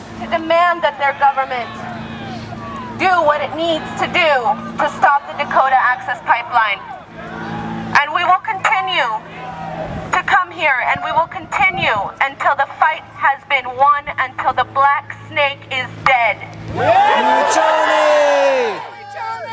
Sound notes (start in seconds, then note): 16.7 cheering